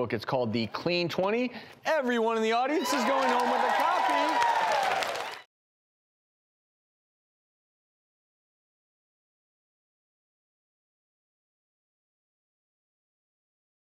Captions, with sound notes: It's called The Clean 20. Everyone in the audience is going home with a copy. (audience applauding)